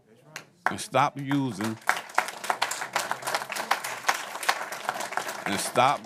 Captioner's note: applause